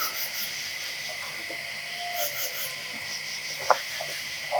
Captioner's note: insects chirping